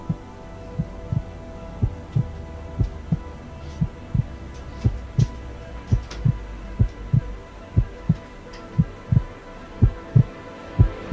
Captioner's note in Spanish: latidos